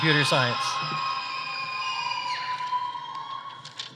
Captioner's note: audience cheering